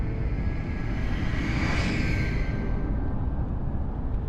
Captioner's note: ominous shriek